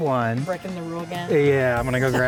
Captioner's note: child laughing